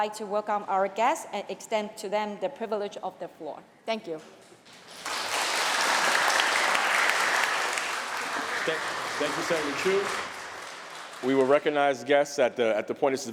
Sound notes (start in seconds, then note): 4.6 applause